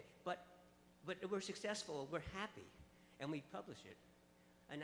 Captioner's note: voiceover